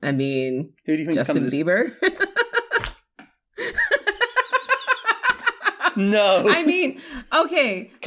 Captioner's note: laughter